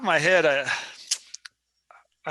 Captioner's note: clicks tongue